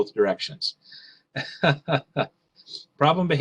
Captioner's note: laughing